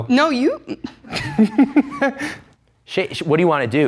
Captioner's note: laughs